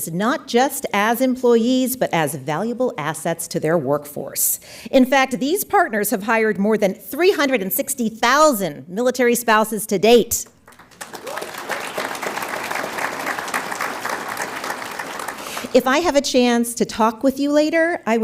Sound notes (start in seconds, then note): 10.6 audience applauds